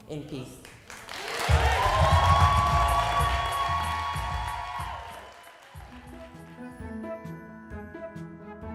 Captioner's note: cheers and applause